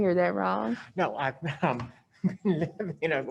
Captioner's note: laughs